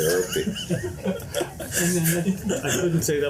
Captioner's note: laughter